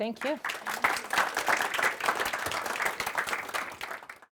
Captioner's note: applause